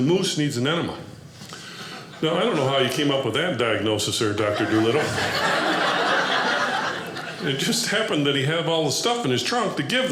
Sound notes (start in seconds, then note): 4.4 audience laughing